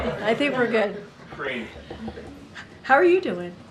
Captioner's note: laughter